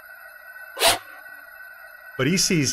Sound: woosh

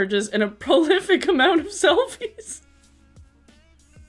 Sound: giggling

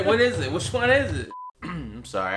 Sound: beep

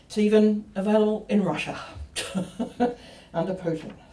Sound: laughs

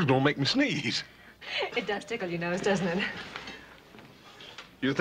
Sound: laughs

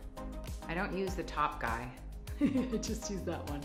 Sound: laughs

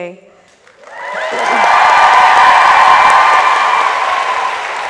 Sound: audience applauds

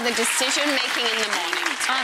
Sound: audience clapping

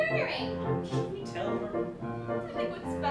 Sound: whisper

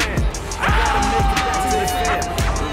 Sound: screams

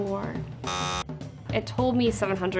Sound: buzzer buzzes

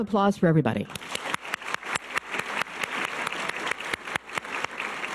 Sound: audience applause

